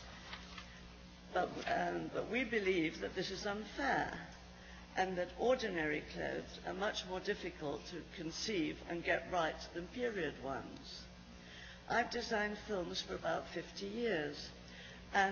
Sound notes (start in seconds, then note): none